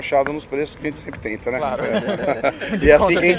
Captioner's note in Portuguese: risos